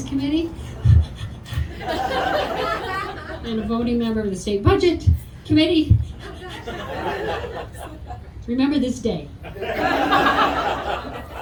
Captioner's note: audience laughter